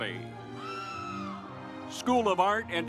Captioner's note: audience cheers